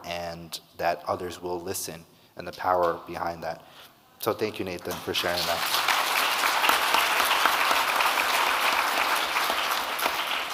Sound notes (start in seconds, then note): 4.9 audience clapping